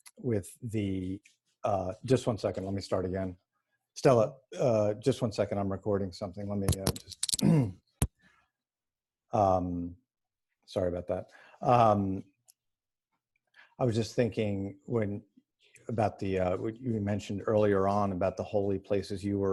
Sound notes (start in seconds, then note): 7.4 clears throat